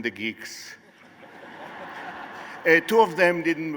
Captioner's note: laughter